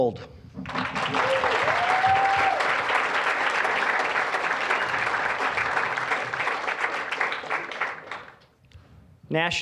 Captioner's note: applause